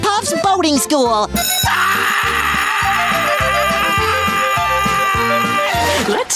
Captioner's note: Squidward screaming